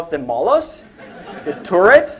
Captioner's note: laughter